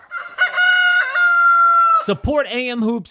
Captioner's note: rooster crows